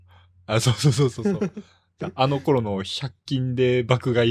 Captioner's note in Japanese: 笑い